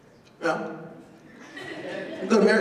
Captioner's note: laughter